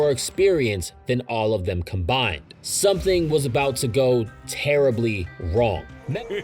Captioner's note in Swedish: skrattklipp